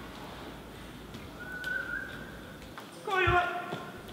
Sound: whistles

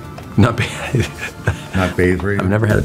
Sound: laughs

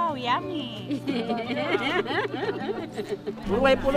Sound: chuckles

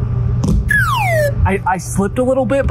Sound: horn sound

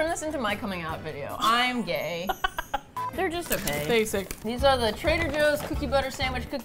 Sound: laughs

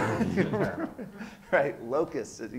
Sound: laughs

